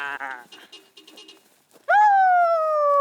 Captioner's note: car horn tooting